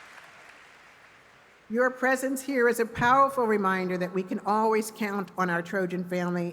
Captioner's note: cheers and applause